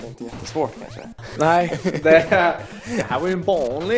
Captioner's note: laughs